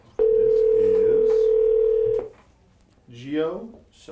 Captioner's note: phone ringing